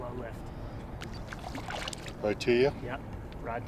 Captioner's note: fish splashing